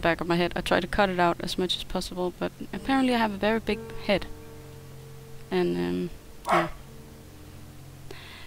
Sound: woof!

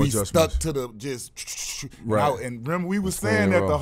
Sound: makes whooshing noise

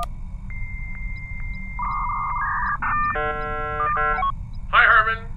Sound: dial-up modem connecting

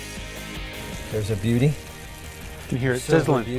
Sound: sizzling

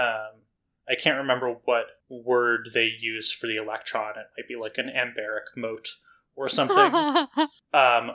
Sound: laughs

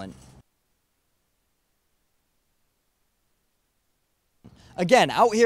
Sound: silence

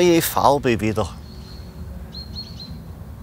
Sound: birds chirping

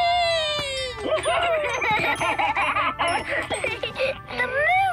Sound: laughing

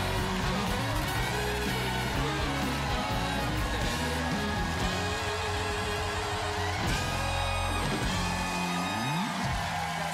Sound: cheering

